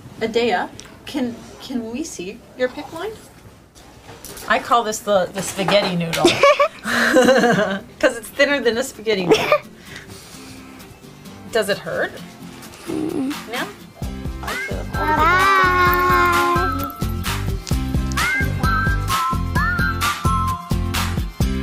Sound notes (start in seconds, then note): 6.2 giggle; 9.3 laughter; 17.0 upbeat music